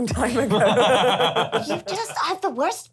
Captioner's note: laughs